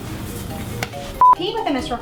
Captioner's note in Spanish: bip